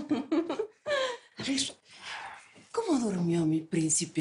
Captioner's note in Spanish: Risas